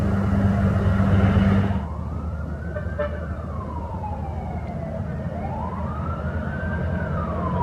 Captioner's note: engine